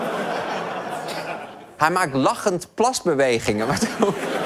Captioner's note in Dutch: gelach